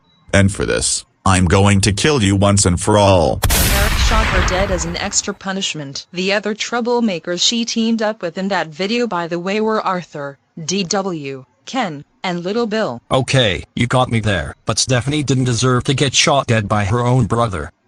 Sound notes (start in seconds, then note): 3.4 gunshot